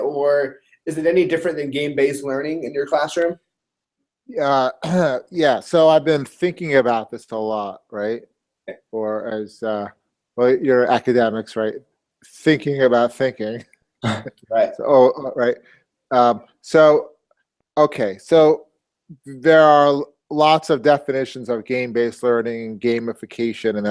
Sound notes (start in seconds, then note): 4.8 cough; 14.0 laugh